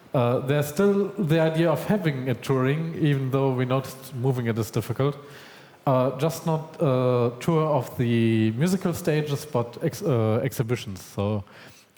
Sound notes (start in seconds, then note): none